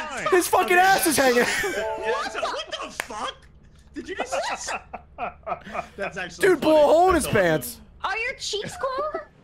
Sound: laughs

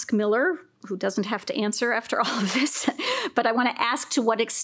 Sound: laughs

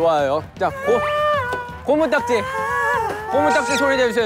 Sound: everyone's making scary sound

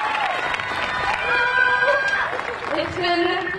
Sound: audience cheering and clapping; yells

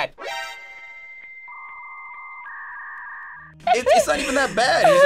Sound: modem screeches; tense musical sting

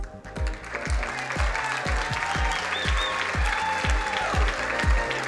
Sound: crowd cheering and applauding

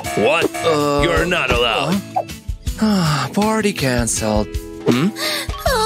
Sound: sniffs

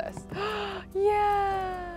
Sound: gasps

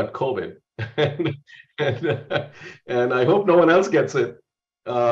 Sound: laugh

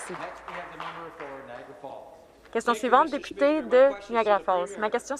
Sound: some Applause

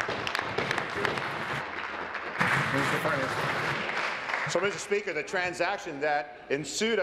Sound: applause

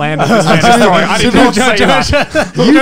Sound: both chuckling

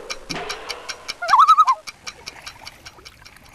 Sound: loon call

